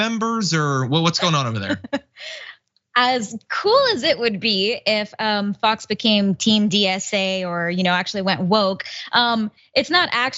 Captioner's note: laugh